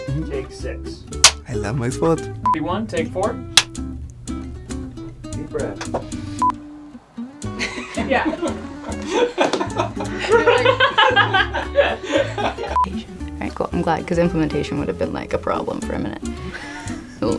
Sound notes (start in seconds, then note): 7.5 laughter; 16.4 laughs